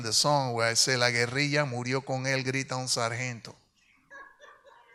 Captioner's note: speaks in Spanish